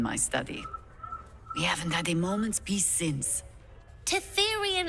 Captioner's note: whispers